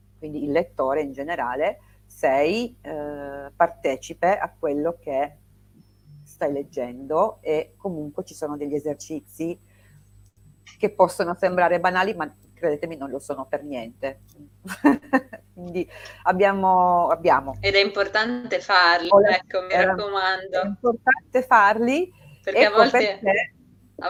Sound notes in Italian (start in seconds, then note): 14.6 risate